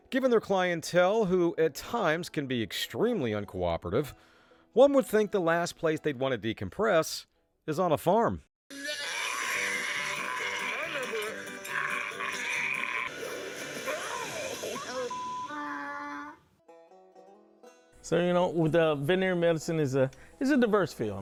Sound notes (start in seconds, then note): 8.7 goat Screaming; 8.7 yelling; 11.3 donkey Sound